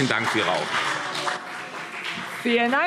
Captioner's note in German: Heiterkeit und Beifall CDU